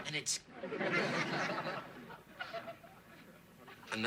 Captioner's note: classic sitcom laughter